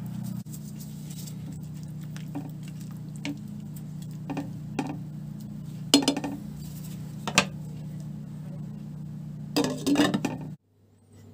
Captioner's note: low boiling water